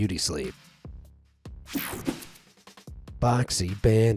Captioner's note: screen whooshing